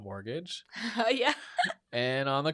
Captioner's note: laughs